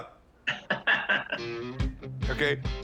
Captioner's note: laughs